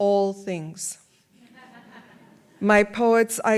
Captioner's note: audience laughs